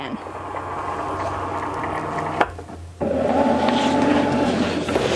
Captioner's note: machine buzzing